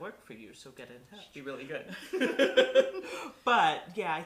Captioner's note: laughter